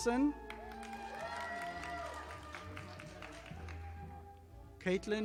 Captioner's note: audience applauding